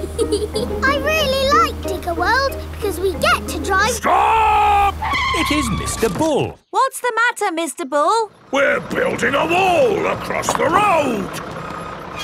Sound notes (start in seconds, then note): 0.0 george chuckling; 3.7 tires screeching